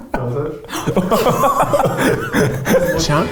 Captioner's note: laughing